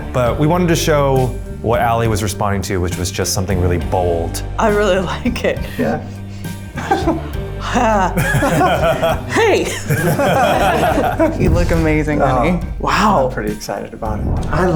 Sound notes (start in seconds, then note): 7.7 everyone laughs; 8.0 laughter continues